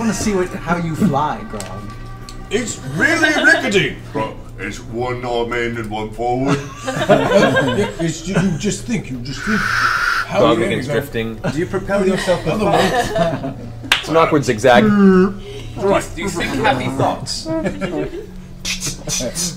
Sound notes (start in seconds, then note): 6.5 all laugh